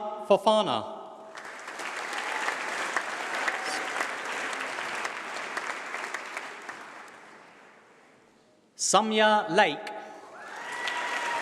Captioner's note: applause; applause